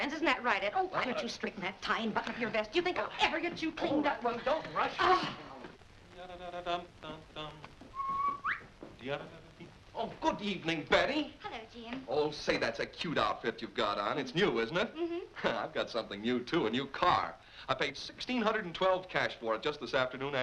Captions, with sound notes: Isn't that right, Ed, oh, why don't you straighten that tie and button your vest? Do you think I'll ever get you cleaned up? - Well, don't rush! - Ahh! [humming] [whistling] - Oh, good evening, Betty. - Hello, Jim. Oh, say, that's a cute outfit you've got on. - It's new, isn't it? - Mm-hm. [chuckles] I've got something new, too. A new car. I paid $612 cash for it, just this afternoon